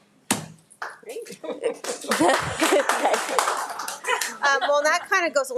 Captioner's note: audience applauds